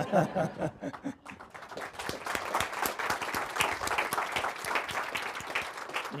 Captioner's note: laughs; audience claps